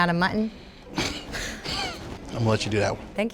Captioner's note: chuckling